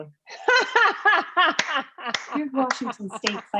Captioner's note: laughing